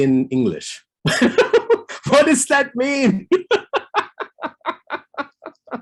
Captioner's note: laughs